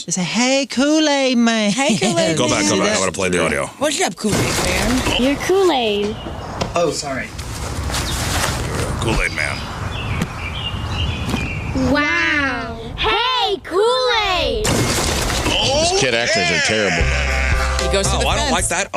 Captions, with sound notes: They said, hey, Kool-Aid man. Hey, Kool-Aid man. Go back. I want to play the audio. What's up, Kool-Aid man? You're Kool-Aid. Oh, sorry. Kool-Aid man. [BIRDS CHIRPING] Wow. Hey, Kool-Aid. Oh, yeah. These kid actors are terrible. [BUZZER] He goes to the fence. Oh, I don't like that.